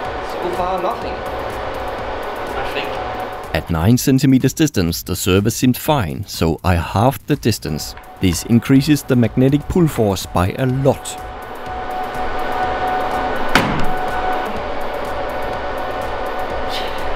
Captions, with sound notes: - So far nothing... I think... At 9 centimeters distance the server seemed fine so I halved the distance. This increases the magnetic pull force by a lot. [RATTLING THUD!]